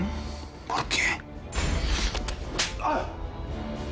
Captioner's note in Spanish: Susurra